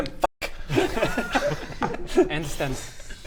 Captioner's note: surprisingly unoffended snickering